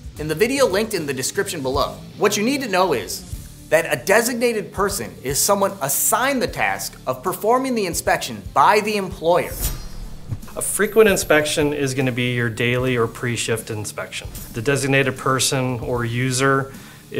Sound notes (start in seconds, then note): 9.5 blade slicing